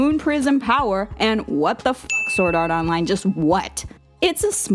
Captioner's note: chiming